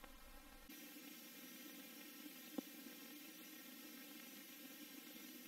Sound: television static accompanied by pre-recorded old film

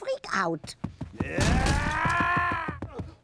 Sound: yelling

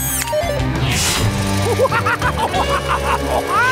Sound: laughing

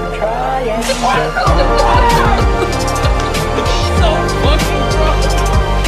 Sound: Ethan and Mark laughing

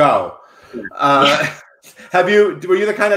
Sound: laughing

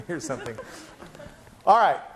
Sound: laughing

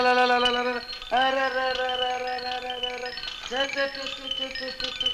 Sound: toy rattles

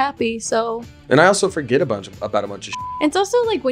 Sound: beep

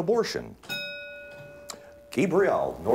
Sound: ding

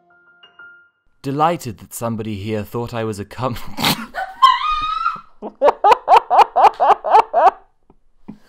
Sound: laughs

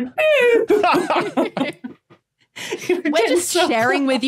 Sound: group laughing

